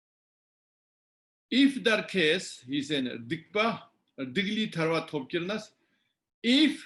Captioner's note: tibetan